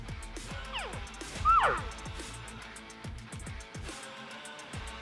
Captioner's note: imitates an elk call; driving music